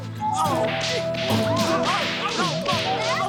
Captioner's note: slapping sounds